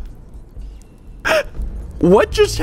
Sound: gasp

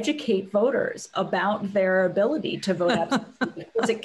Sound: laughter

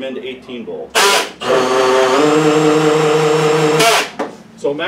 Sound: drill noises

